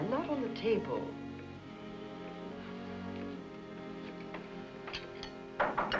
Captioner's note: knock